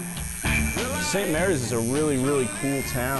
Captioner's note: buzzing